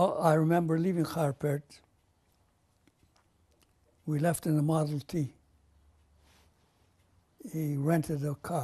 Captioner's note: pauses for 3 seconds